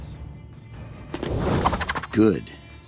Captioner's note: whooshing